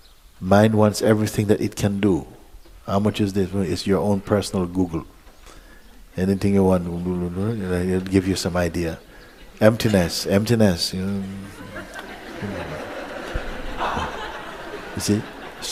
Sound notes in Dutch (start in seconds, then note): 11.1 gelach